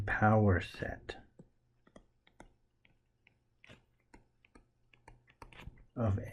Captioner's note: tapping Sounds